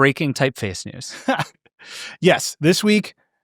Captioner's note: laughing